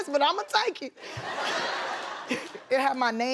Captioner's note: audience laughs